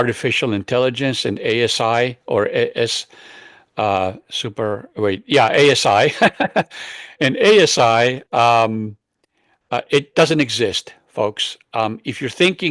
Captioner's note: laughs